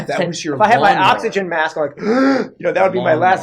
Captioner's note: deep inhale